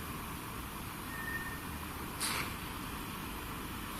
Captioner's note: whistling